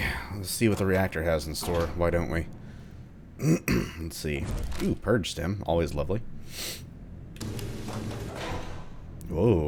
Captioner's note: clears throat